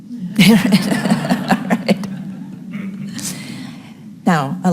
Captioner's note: audience laughing